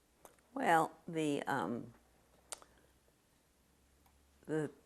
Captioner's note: pauses for 3 seconds